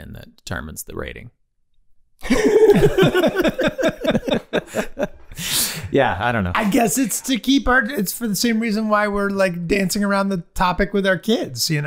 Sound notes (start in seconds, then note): 2.2 all laughing